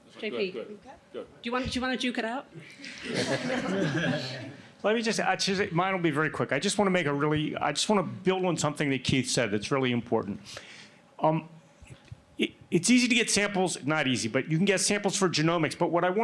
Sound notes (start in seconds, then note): 2.8 laughter